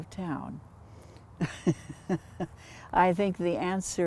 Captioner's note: chuckles